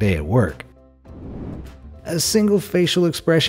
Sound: air whooshing

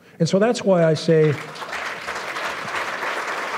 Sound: applause

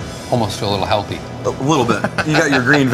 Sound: laughs

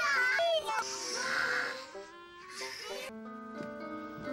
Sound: child hisses and growls

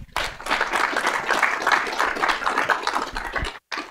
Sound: audience clapping

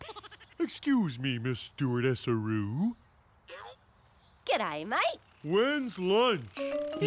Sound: giggling

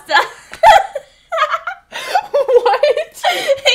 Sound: laughs

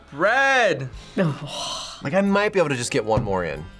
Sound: scoffs

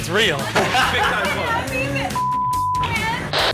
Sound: laughter; beep

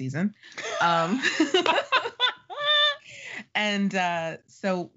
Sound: laughing

